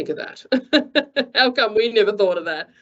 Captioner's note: chuckles